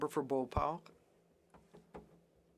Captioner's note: speaking French